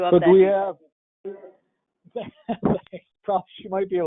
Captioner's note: laughter